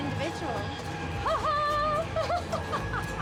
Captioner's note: laughing